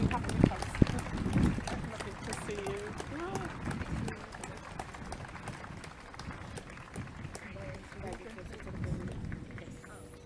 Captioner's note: clapping and cheering